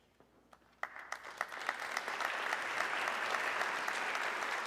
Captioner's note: audience clapping